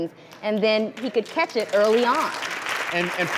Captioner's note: clapping